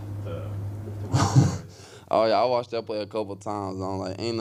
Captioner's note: chuckles